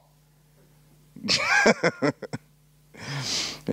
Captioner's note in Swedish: Skrattar